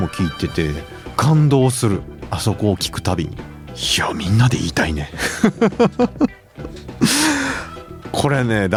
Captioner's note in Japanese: 笑い